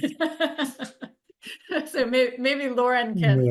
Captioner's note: laughing